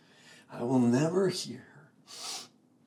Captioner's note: sniffs